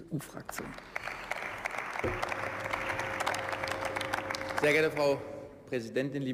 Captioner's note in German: Beifall